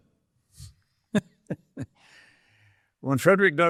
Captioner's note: chuckling